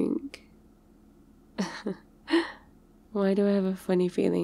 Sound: laughs

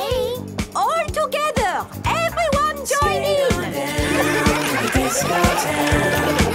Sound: laughter

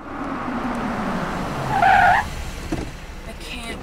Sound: brakes screech

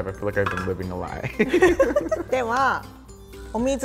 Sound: laughs

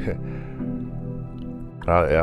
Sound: Lamar laughs quietly

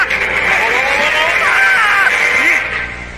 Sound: screams

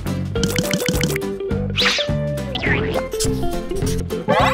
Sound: upbeat music begins; glugging

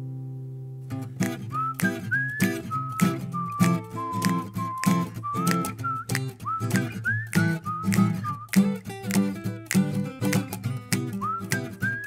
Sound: whistling

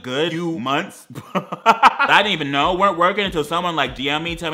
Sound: laughs

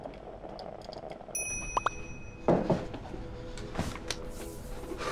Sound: cell phone chiming

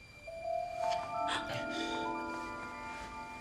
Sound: Tewkesbury grunts

